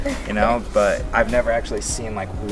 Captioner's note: chuckle